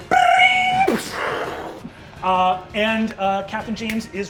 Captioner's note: mimics a slot machine ringing and exploding